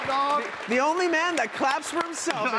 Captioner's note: applause